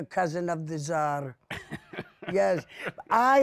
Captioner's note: laughs